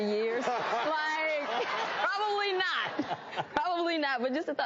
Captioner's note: audience laughs